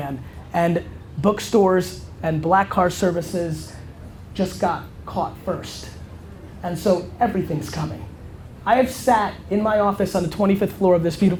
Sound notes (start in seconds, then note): none